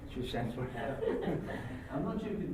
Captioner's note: laugh